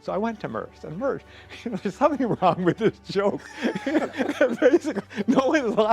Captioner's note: laughs